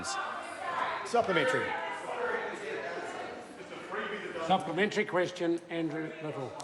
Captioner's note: members talk loudly